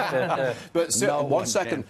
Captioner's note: laughter